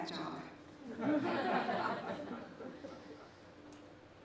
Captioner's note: laughter